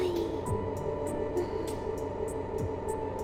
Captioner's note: unsure breath